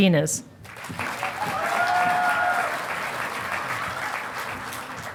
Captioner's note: audience applauding